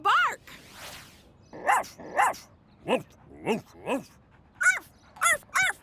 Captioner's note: barking